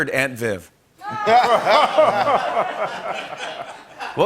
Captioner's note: laughter